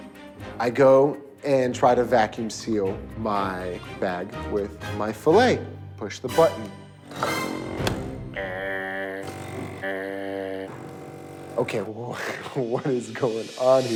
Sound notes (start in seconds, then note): 6.5 buzzing noise; 8.4 imitates buzzing noise; 10.3 buzzing noise